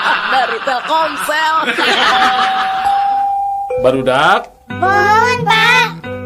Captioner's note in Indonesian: tertawa